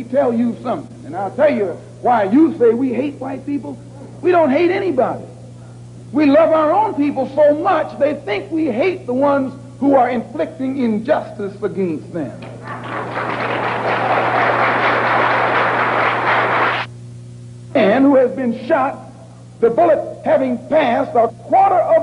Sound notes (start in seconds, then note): 12.6 applause; 12.6 video skips